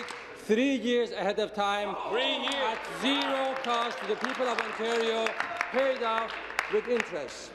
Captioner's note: applause